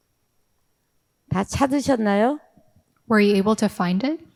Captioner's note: speaking in foreign language